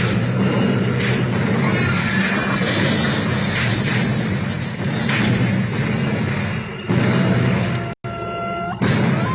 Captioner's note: gunfire